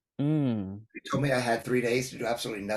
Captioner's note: laughs